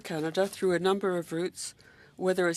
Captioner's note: speaking French